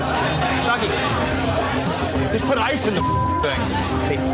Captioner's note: beep